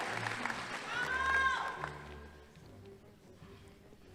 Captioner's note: audience member shouting indistinctly; soft orchestral music